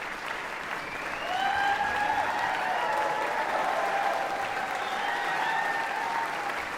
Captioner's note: audience clapping and cheering